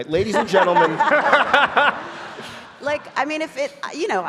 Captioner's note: audience laughing